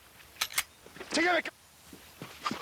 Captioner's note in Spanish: Sonido al enristrar